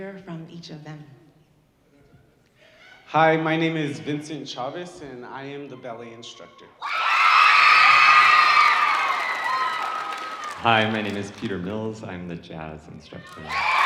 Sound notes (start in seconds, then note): 6.8 audience cheering